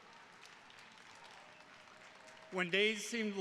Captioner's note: attendees clapping